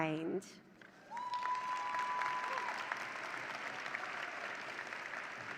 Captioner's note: audience cheering